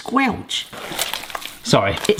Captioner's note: meat squelching